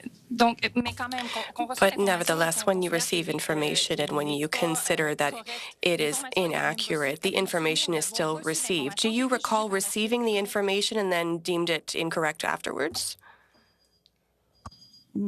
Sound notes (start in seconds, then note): 7.7 speaking French